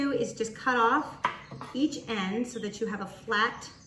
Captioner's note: knife strikes the board